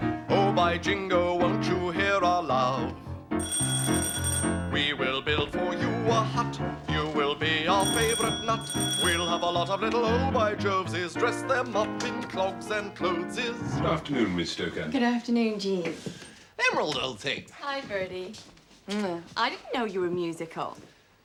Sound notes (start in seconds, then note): 3.4 doorbell rings; 7.7 doorbell keeps ringing; 7.7 doorbell rings